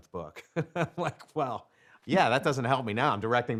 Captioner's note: laughs